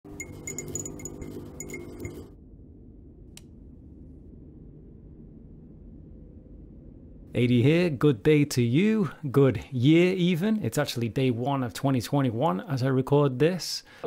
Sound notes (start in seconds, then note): 0.0 light flickering clicks & buzzing noises; 3.3 click